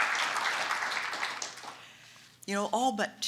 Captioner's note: applause